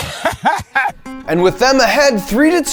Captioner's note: laughs